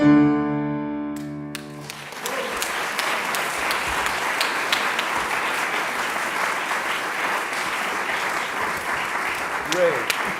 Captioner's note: audience applause